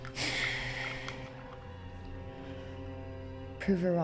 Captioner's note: Claire sighs